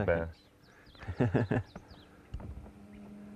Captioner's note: laughter